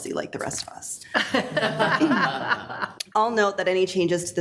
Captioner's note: group laughs